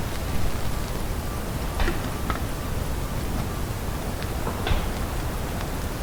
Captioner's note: branches cracking; object knocking